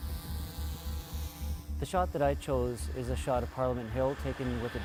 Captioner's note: drone whirs